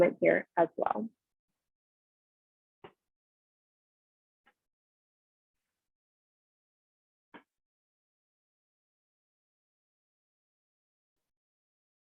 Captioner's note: silence